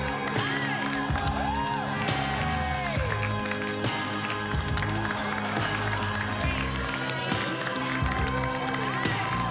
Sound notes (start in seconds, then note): 0.0 cheers and applause